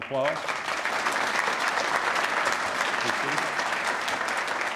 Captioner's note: applause